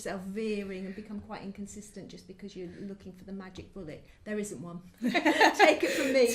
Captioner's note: laugh